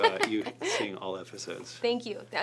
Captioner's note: clap hands